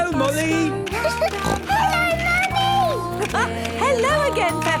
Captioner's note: laughing; giggling and snorting